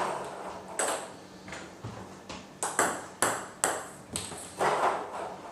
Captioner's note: ball ping pong hitting continues